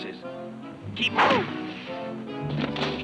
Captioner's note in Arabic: سهم يرن; موسيقى مثيرة